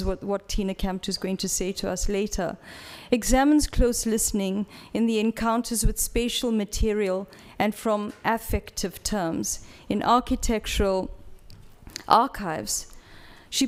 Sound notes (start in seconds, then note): none